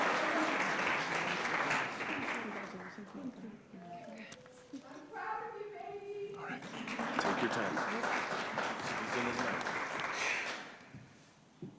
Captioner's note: cheers and applause